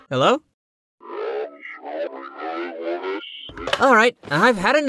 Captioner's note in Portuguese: Voz estranha ao telefone